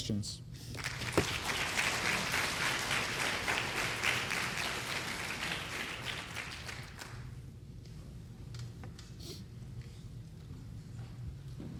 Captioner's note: applause